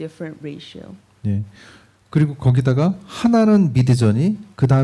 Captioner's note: speaking korean